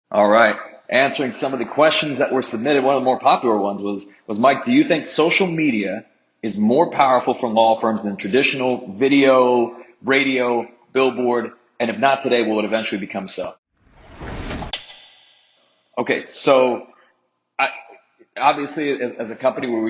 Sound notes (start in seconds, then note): 13.8 signature whooshes